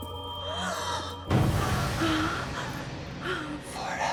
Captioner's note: Bryn gasps